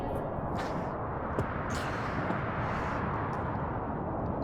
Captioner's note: demure gasping; wind roaring